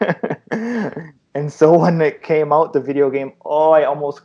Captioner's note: laughter